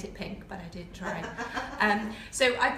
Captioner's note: laughter